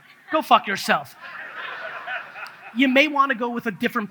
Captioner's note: audience laughs